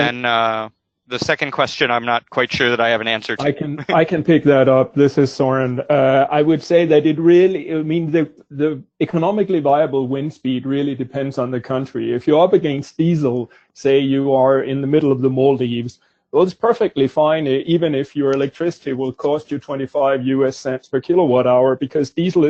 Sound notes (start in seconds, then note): 4.5 laughs